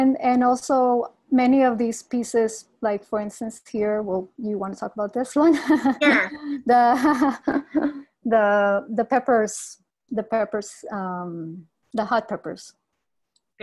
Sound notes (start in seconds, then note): 6.8 laughs